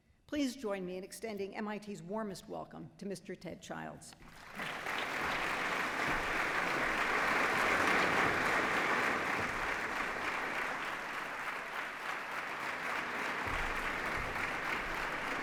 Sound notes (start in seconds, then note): 4.7 applause